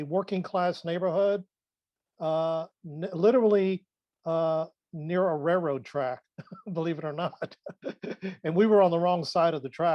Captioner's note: laughs